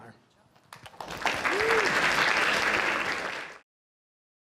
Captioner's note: applause